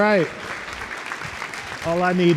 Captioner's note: audience clapping